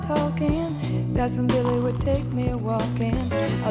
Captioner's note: glass pouring alcohol